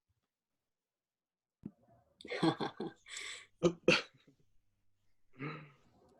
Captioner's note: silence and a couple awkward chuckles